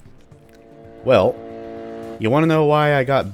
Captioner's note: Junker Musket charging up